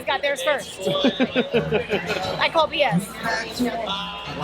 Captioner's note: chuckles